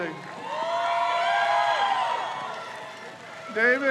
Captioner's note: crowd cheers